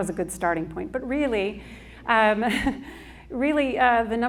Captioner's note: laughs